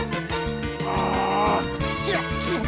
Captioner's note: strains; grunts